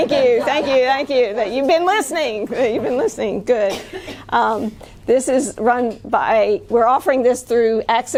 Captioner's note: laughter